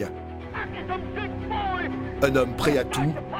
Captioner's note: German spoken audio